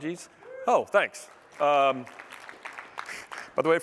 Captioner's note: applause